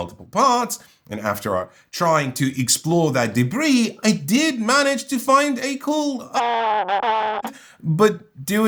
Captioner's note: rasp